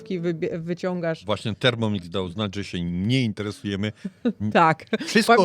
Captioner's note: śmiech